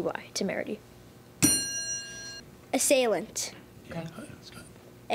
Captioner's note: ding